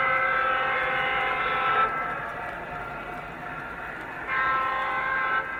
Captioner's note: train whistle